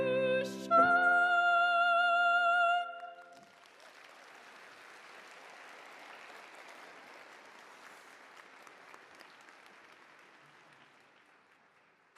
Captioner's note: applause